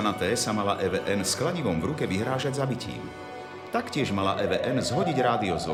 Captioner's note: voice of reporter